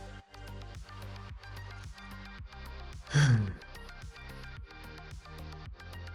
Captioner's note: sighs